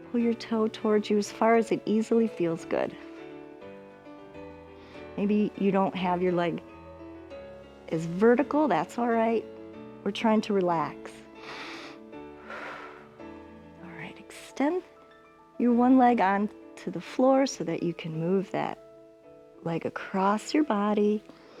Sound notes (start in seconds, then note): 11.3 inhales and exhales